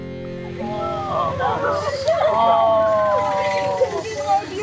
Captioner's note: Freudige Klänge und Lachen